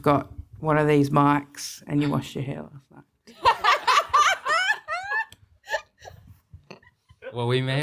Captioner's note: everyone laughs hehe